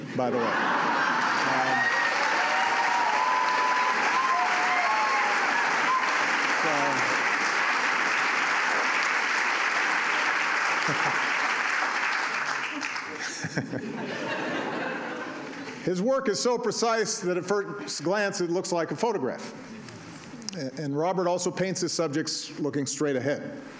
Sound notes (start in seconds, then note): 7.3 laughter and applause; 10.8 laughs; 12.7 laughter